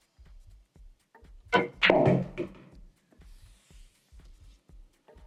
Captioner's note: balls hitting